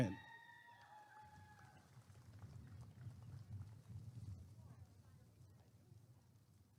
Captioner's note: applause and cheering